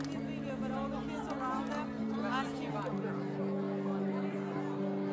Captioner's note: speaking in foreign language